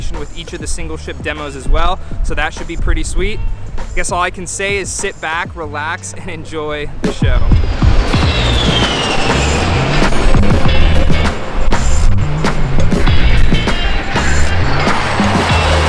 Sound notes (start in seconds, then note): 7.6 jet engines roar